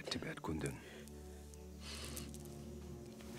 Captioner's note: sniffling